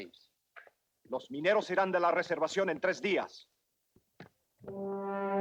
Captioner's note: Ramirez speaks Spanish; moody orchestral music